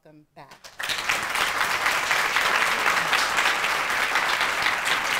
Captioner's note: audience applauding